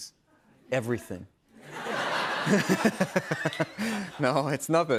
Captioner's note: laughter